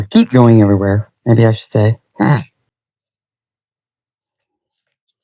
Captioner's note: laughing